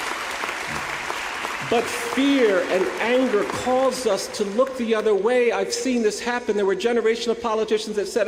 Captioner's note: applause